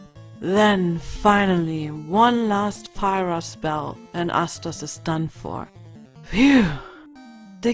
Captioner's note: exhale